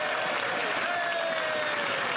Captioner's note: cheering; applause